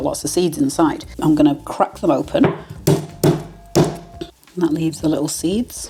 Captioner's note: bang bang bang